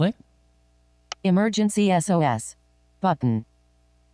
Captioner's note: automated Female Voice